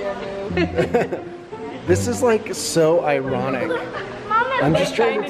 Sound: laughs

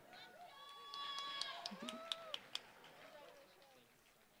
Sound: applause

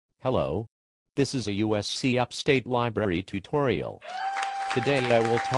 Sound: applause

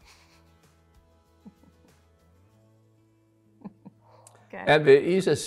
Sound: chuckles

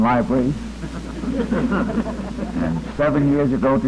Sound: laughter

